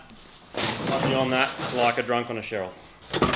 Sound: thuds; clattering

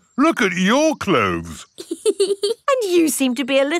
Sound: laughs

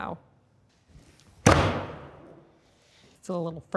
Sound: hammer banging

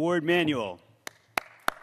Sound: applause

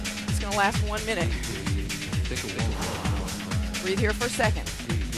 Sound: exhales

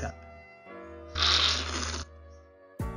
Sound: slurping

